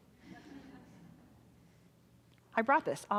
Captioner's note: audience chuckling